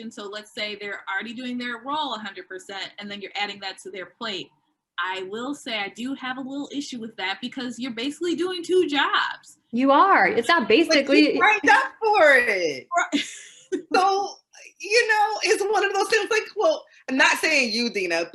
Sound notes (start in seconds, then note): 13.1 laughing